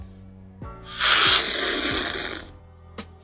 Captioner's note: slurping